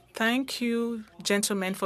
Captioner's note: speaking French